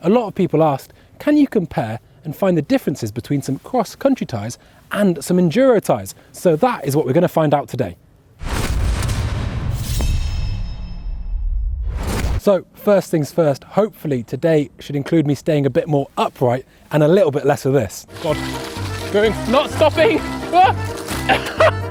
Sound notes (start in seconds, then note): 8.4 stomping; 8.8 blade clanging; 20.2 carnival music; 21.6 laughing